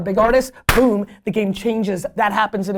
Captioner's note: claps hands